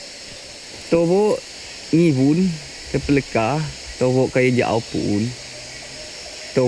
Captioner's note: speaking in foreign language